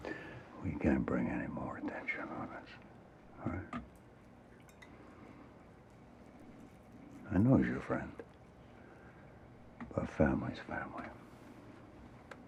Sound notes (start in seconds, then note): none